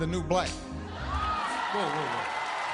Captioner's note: laughter, cheers, applause